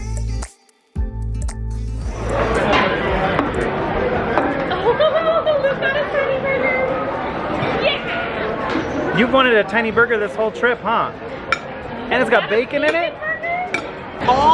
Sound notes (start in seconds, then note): 2.6 indistinct background chatter; 4.5 laughs